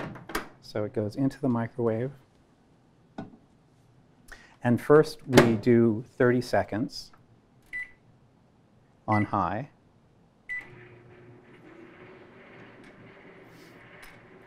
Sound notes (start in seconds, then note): 7.6 beeping; 10.5 microwave sound